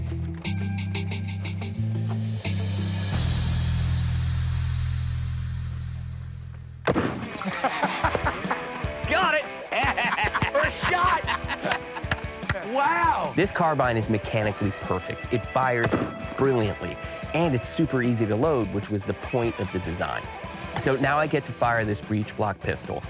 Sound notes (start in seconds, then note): 6.8 gunshot; 7.2 laughs